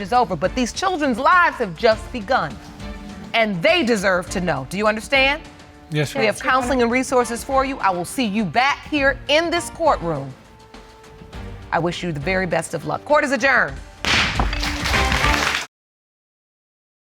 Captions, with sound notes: but these children's lives have just begun. And they deserve to know. Do you understand? Yes, Your Honor. Yes, Your Honor. We have counseling resources for you. I will see you back here in this court room. I wish you the very best of luck. Court is adjourned. (GAVEL BANGS) (AUDIENCE CLAPPING)